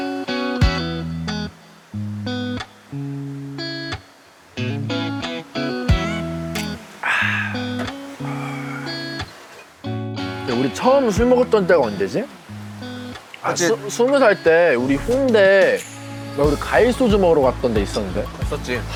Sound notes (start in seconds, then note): 3.2 drinking; 7.0 aaah!